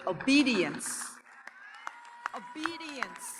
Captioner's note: audience cheers and applauds